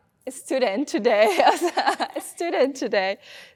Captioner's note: both laughing